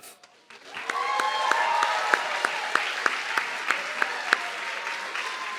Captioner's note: audience clapping and cheering